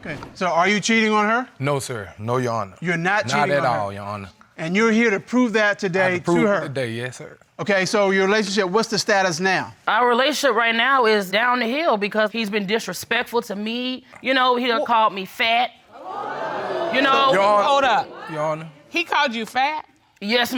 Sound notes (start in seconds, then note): 15.9 crowd crinjes